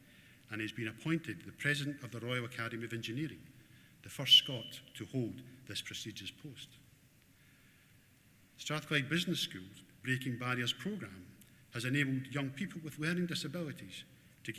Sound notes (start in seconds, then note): none